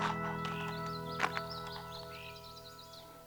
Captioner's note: birds singing